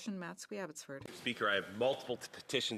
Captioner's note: speaking French